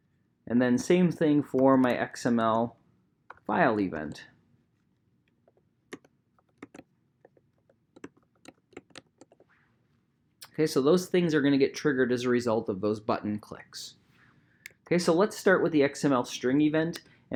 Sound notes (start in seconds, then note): 6.4 typing